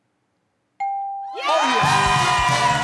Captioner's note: ding